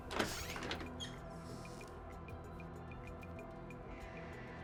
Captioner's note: door squeaks